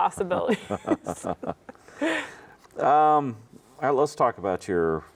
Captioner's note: both laugh